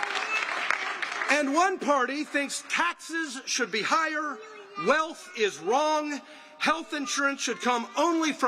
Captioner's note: applause